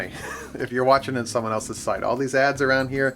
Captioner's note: chuckles